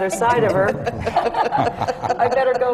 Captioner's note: laughter